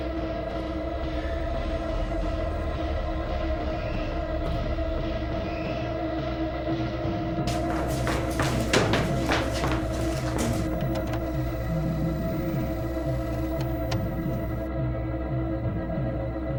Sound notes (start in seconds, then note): 10.7 static whirring; 13.5 suspenseful music